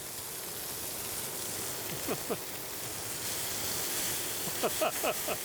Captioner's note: grill hissing; laughing